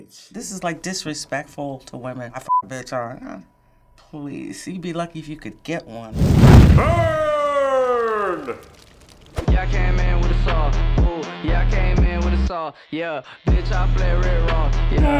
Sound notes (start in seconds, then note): 6.1 flames rage; 7.5 voice-over; 15.0 groans